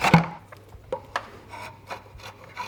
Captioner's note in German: Schabende Geräusche